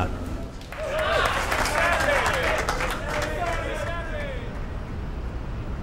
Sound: group cheering and clapping

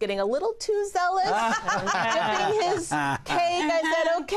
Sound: laughter

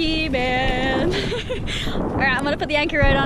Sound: laughing

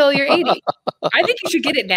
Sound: laughs

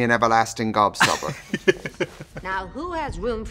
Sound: laughing

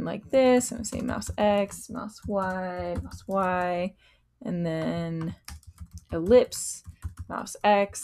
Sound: typing

